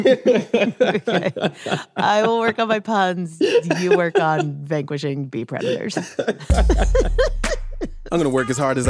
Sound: laughs

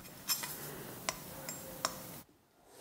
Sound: clacking

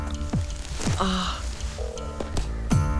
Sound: groans

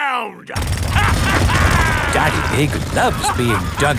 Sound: drilling and laughing

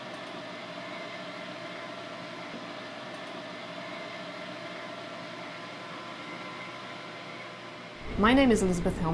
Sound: whirring

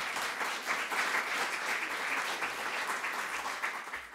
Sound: audience applauds

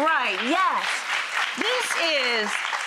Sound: audience claps

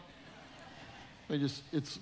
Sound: audience laughing

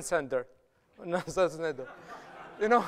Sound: laughter

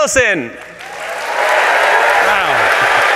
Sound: applause

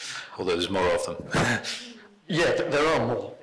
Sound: laughs

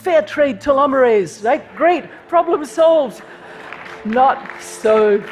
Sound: applause

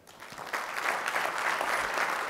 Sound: applause

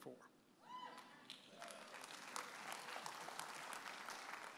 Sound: audience applauding

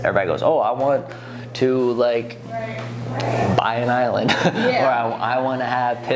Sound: laughing

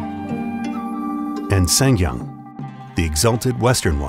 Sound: speaking in foreign language

